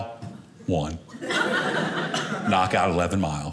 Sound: audience laughing

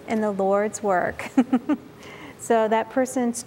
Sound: giggle

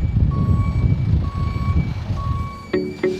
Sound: beeping

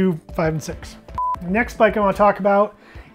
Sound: timer beeping

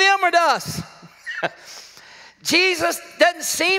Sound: laughs

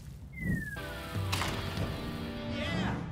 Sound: stones thud

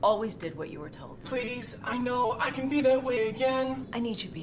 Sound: in robotic voice

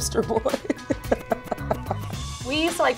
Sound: woman laughing

